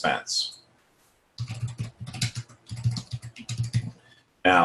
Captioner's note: typing